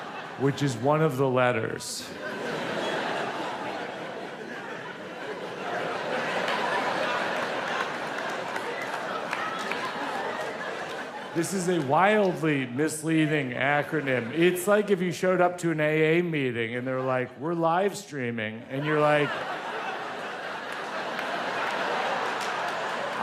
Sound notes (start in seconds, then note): 2.7 laughter